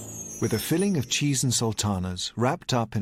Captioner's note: none